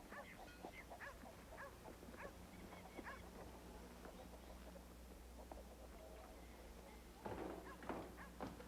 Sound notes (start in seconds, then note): 2.1 dog barking